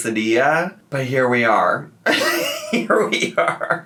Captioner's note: laughs